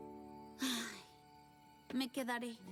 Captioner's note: sigh